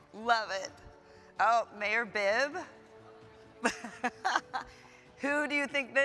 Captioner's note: laughs